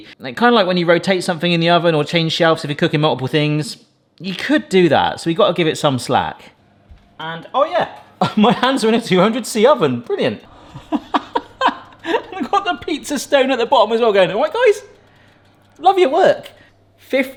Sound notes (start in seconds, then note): 10.4 laughs